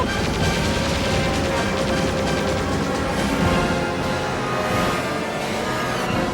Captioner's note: gun firing; upbeat music